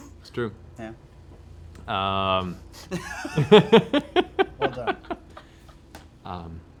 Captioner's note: laughter